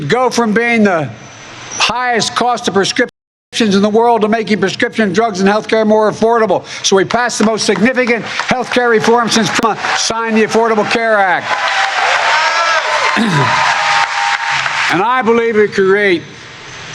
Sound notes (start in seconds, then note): 7.2 cheering and applause